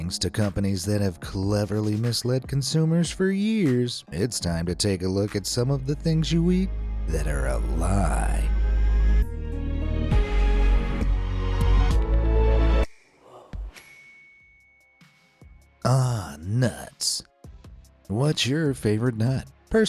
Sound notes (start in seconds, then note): 8.7 light suspenseful music; 13.8 bell dings